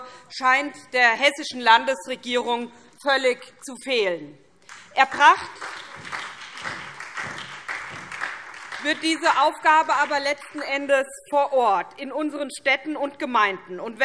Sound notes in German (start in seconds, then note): 4.6 Beifall SPD